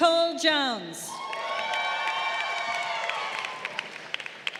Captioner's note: crowd cheering